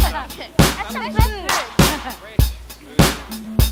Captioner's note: techno music; people talking